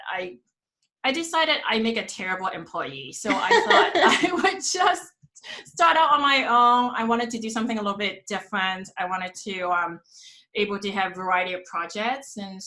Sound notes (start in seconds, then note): 3.2 laughs